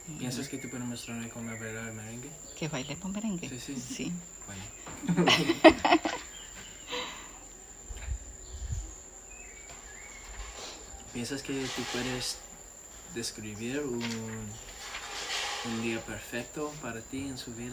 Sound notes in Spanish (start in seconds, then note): 4.9 risas